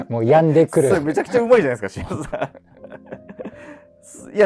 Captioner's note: laughing